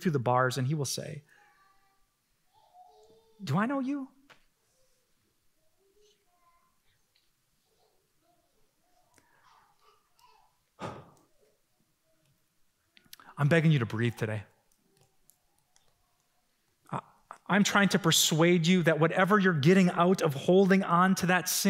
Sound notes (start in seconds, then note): 10.4 exhales